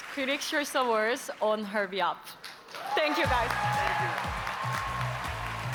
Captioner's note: applause